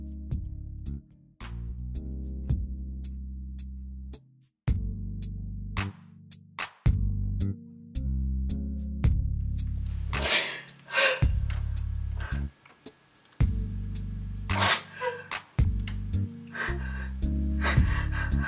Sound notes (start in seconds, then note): 2.0 gentle music; 10.8 Renee cries; 15.7 gentle music